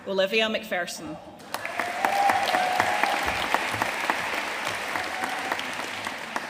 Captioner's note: audience cheering and applauding